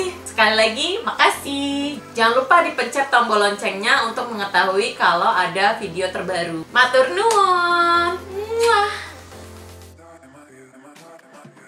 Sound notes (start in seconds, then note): 8.5 kiss